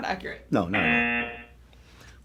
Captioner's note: buzzer